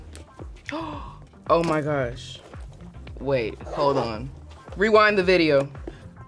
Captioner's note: gasp